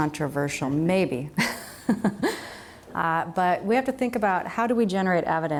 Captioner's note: laughs